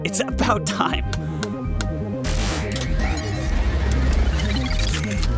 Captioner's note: electronics whirring